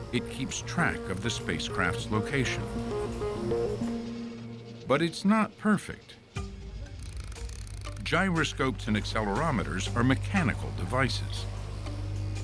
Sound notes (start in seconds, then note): 6.9 dial clicking